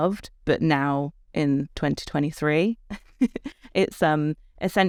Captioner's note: chuckles